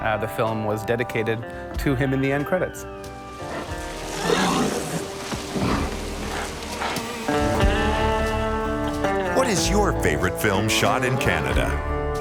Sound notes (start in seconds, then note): 3.4 roaring; 8.2 mellow country music